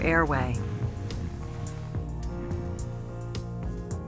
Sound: man snoring and gasping

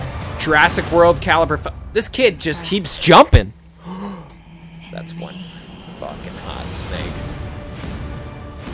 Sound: gasp

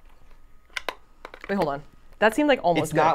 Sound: beaters clicking

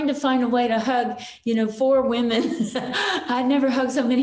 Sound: chuckles

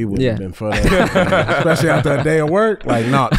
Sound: all laughing

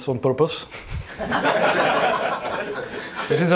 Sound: audience laughs

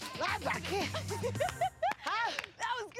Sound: laughs

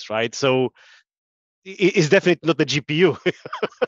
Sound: laughing

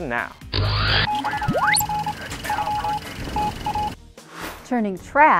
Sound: sound Effects

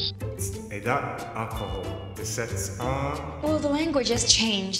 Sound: foreign language

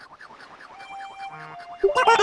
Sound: laughter

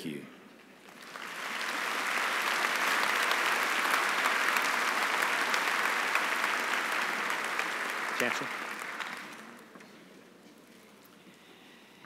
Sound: applause

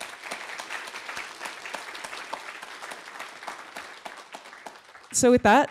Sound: applause

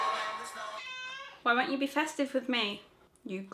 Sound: cat meows

